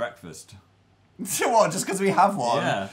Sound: laughs

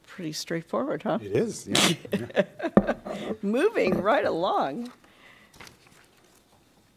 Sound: laughter

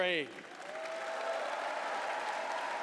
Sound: applause

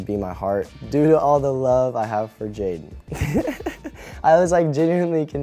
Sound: laughs

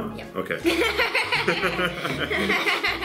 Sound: laughs

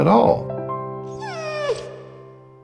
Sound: dog whimper

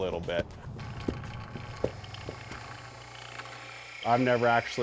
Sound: machine whirring

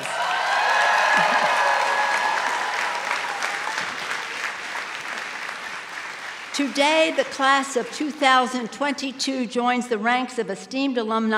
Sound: cheers and applause

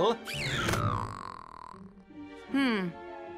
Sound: squeals, groans

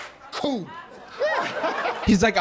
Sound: audience laughing

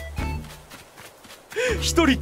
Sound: inhales

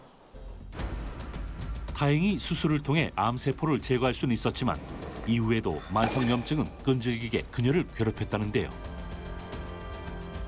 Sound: voiceover

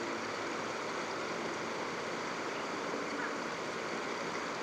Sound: fast-forwarding

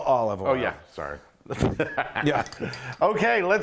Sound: laugh

